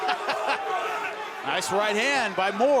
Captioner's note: laughs